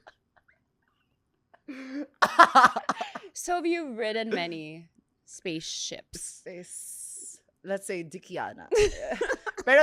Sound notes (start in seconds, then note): 2.2 laughs; 8.4 laughs